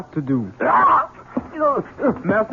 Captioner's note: screams